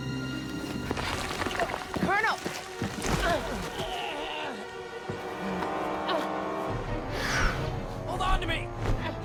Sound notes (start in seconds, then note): 3.9 Toller groans; 3.9 dramatic music